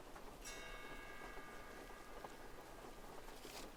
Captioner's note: sound of a pendulum clock continues